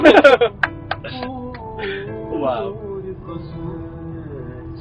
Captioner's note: claps